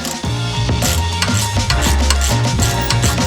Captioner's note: ratcheting